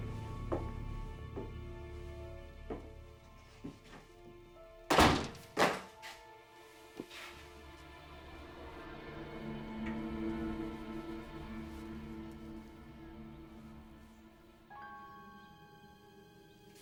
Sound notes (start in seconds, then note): 4.9 door slams; 7.1 suspenseful orchestral music